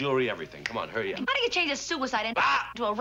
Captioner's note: shouts